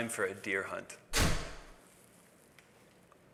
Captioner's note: slam